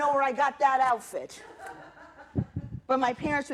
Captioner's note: laughter